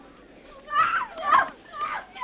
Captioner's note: resident screams